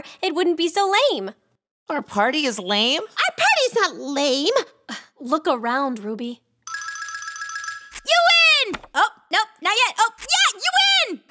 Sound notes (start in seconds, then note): 5.0 sighs; 8.5 object hits floor